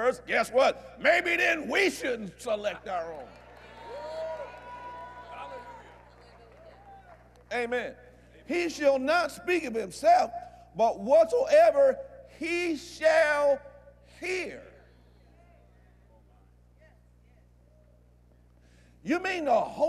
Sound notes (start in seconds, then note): 4.9 agreement & Applause